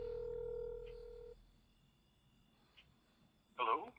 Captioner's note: phone ringing